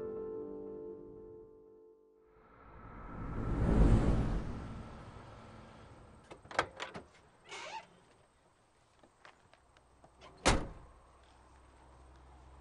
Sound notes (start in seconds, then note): 7.4 door opens squeakily